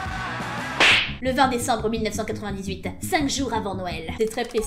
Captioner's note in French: claque